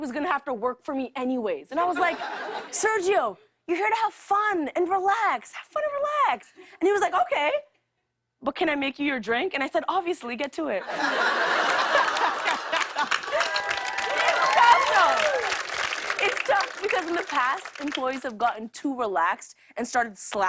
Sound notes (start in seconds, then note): 10.8 laughter; 11.2 cheers and applause